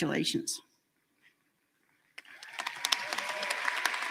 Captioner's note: applause